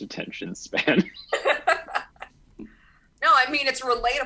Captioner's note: laughs